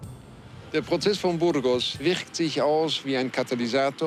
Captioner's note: male reporter speaking German